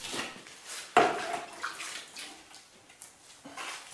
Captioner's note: splashing